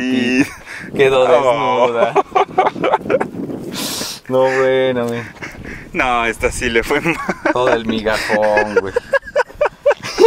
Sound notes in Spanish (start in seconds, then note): 1.9 Risas; 6.9 risas